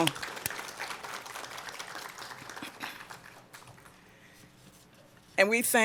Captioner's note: applause